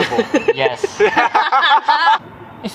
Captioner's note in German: alle lachen